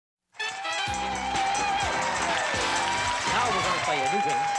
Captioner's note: applause and cheering